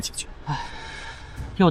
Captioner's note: sigh